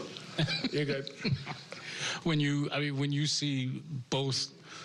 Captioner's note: laughter